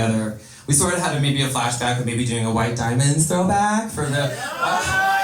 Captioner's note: laughter, YES!